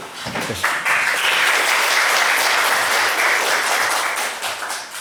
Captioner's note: students greet him with applause